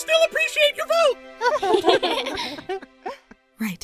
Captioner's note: chuckles